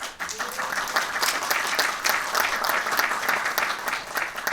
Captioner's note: audience applauding